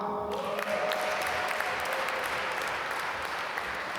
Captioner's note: applause